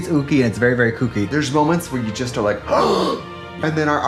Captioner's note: gasps